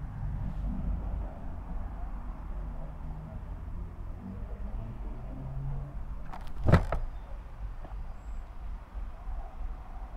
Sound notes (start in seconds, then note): 0.5 door opening